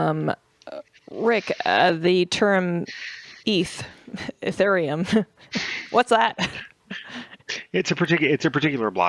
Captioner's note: laughs